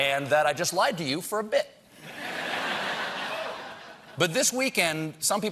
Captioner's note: laughter